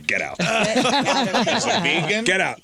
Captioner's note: laughing